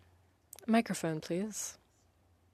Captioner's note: speaking in French